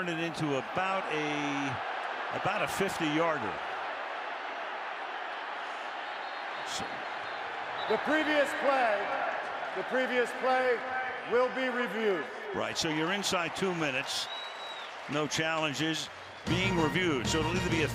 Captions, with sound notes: Now you turn it into about a-- about a 50-yarder. [whistle] The previous play-- the previous play will be reviewed. Right. So you're inside two minutes, no challenges, being reviewed.